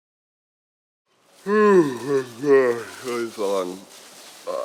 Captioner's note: yawns